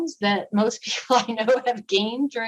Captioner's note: laughter